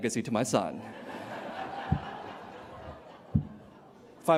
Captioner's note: laughter